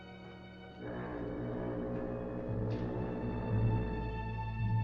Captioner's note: foghorn Blows